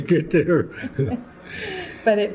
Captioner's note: laughter